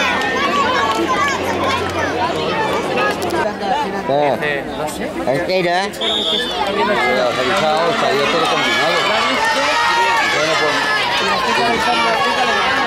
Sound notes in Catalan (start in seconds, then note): 5.9 La gent anima; 6.0 xiulet